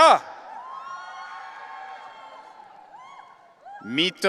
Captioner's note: audience cheering